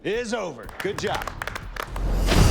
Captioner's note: all applauding